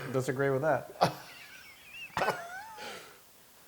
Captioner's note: laugh